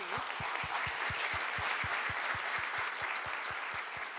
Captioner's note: audience applauds